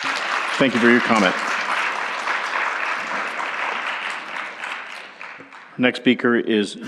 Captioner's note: applause